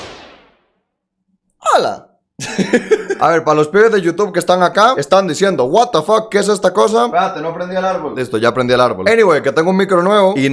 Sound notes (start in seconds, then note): 2.4 intro laugh